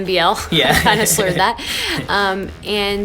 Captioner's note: laughs